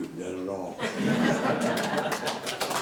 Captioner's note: all laughs; all claps